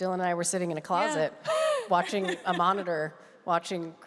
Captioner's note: laughs